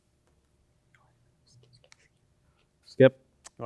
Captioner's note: team whispers